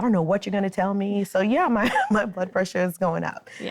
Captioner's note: laughs